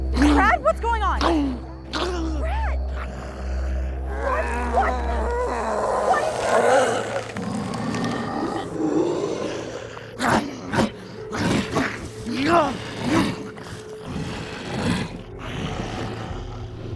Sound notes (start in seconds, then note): 0.1 shrieks; 6.9 Brad growling; 10.2 Brad grunting; 14.1 Brad growling